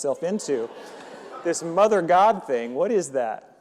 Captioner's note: audience laughing